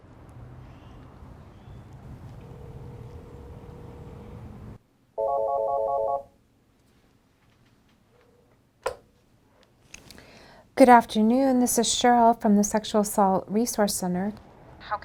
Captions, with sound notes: [phone ringing] Good afternoon. This is Cheryl... from the Sexual Assault Resource Center.